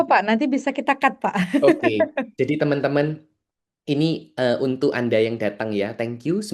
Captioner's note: tertawa